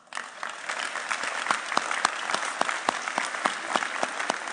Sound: audience applauding

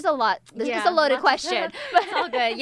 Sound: laughs

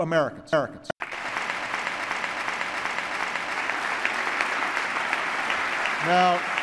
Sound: applause

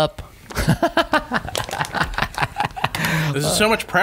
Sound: laughter

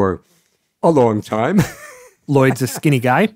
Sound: laughs

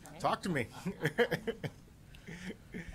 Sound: laughter

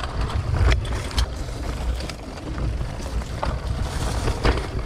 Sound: gear clicks

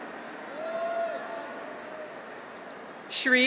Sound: graduates cheer

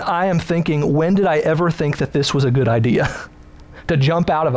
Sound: laughs

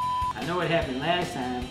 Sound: beep

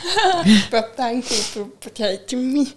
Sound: chuckles

